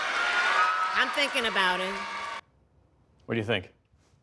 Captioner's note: cheering